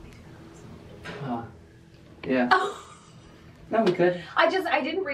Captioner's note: chuckles